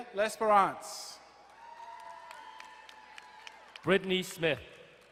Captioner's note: crowd cheering and applauding